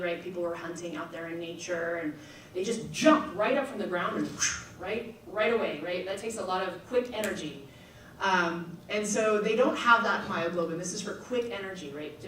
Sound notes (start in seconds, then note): 4.7 swooshes; 7.9 snaps fingers